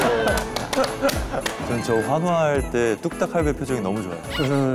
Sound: Grandpa Hammer's cheers are lovely

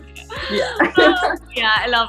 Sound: laughter

